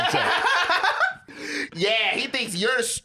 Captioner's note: laughs